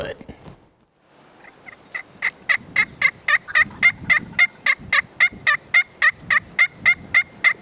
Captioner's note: turkey gobbling; calling